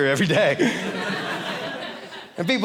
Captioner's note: audience laughing